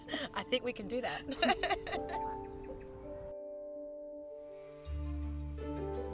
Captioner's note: laughs; laughs